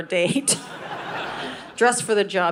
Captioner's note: audience laughing